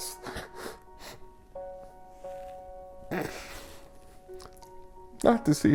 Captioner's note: quietly sobbing